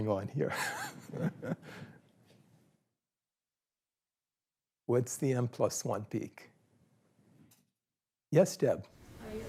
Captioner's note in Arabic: ضحكة مكتومة